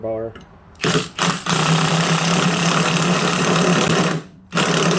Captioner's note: drilling sounds